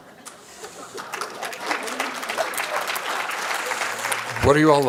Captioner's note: applause